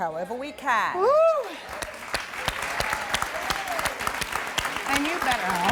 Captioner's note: audience applauding and cheering